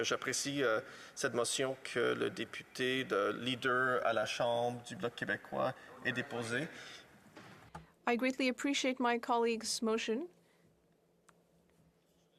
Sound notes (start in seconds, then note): 0.2 speaking French